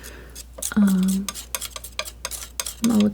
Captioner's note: scratching